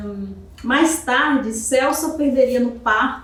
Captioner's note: speaking portuguese